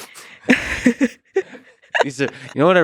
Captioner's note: both laughing